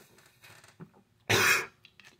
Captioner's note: near death cough